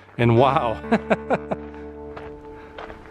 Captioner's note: laughter